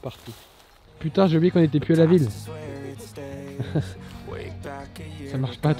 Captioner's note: laughs